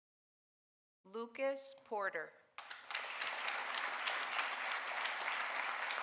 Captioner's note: audience applauding